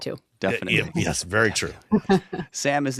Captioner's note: laughs